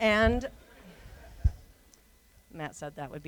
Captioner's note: laughter